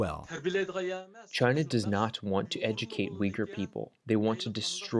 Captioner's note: through translator